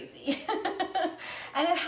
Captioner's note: laughs